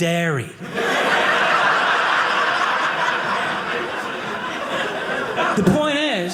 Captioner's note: audience laughing